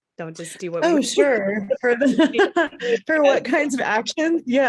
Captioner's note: laughter